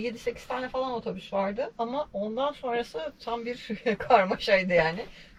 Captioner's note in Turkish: kahkaha